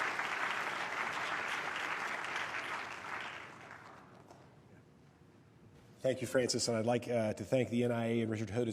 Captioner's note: applause